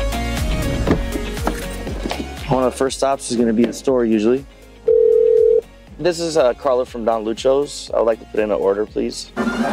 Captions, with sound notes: One of the first stops is gonna be the store, usually. (phone ringing) This is a Carlo from Don Lucho's. I'd like to put in an order, please.